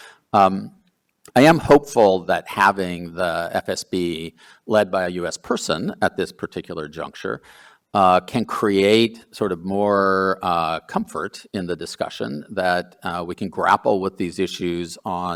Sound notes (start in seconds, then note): none